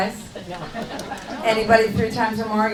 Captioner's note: laughing